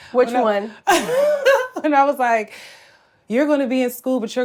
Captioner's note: laughs